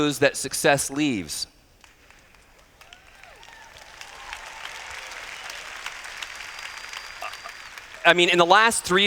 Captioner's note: applause